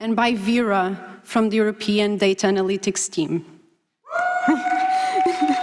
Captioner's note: applause